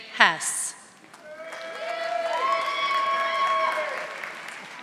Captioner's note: audience applauding